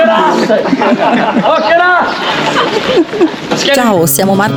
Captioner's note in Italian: risate